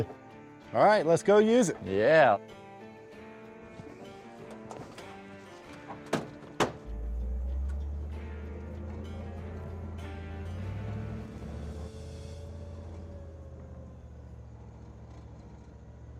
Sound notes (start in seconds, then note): 5.6 truck door closes